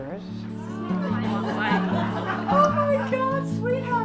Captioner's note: women laughing